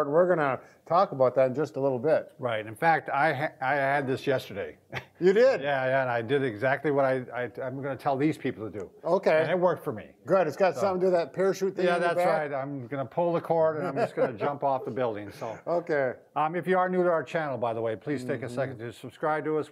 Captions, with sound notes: We're gonna talk about that in just a little bit. Right, in fact, I had this yesterday. -You did?! Yeah, and I did exactly what I'm gonna tell these people to do. Okay, -It worked for me Good, It's got some through that parachute. thing on your back? I'm gonna pull the cord, and I'm just going to jump off the building. [laughing] Okay If you are new to our channel, by the way, please take a second to subscribe to us.